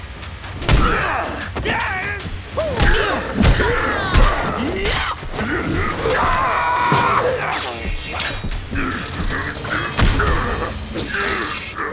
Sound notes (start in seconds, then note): 0.2 grunting; 5.4 screaming; 8.4 grunting